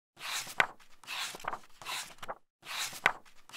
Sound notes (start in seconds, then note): 0.2 pages turning